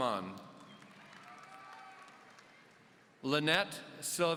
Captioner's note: audience cheering